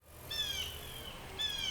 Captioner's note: birds chirping